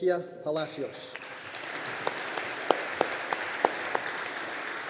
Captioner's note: audience applauding